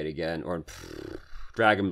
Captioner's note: pfff